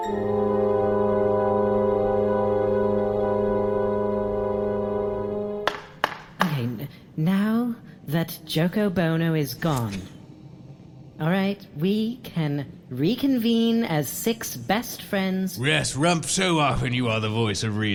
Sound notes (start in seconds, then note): 5.6 gavel bangs